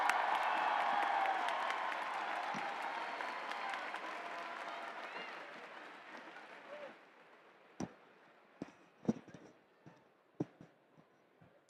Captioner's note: cheering